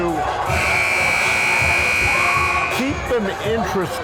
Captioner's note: timer buzzes